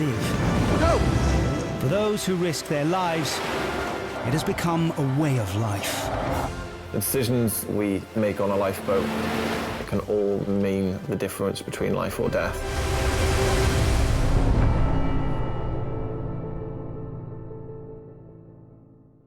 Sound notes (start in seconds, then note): 0.3 dramatic music; 12.5 waves crashing; 14.7 dramatic music